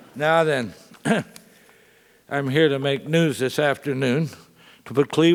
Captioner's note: laugh; cough